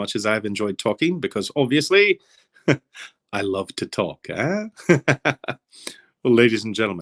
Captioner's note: laughing